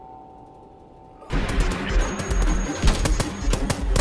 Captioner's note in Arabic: إطلاق النار